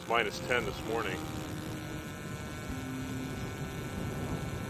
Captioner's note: drill whirring